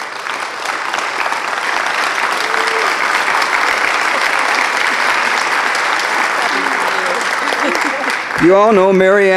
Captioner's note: applause